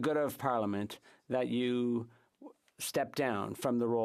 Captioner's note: speaking French